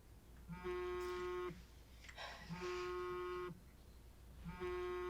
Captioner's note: phone buzzing